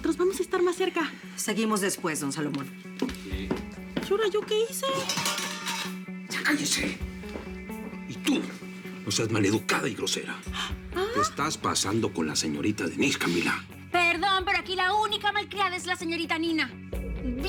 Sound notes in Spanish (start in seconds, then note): 4.8 Ruido de la tapa de olla